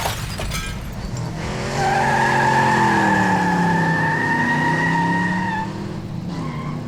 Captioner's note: tyres screech